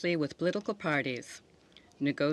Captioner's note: speaking French